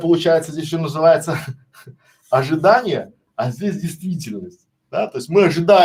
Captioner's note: смех